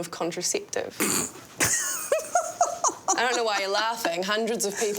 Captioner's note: laughs